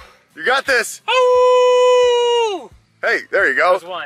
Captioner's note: howling